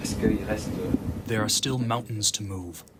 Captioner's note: through translator